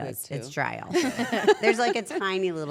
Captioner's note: laugh